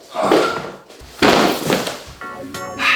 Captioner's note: light scraping; low grunt and thud; chill techno music